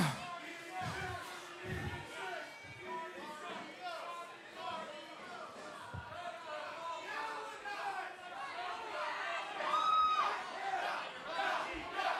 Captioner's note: crowd chatter